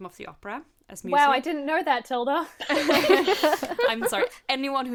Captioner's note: hosts laugh